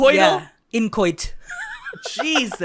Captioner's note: giggles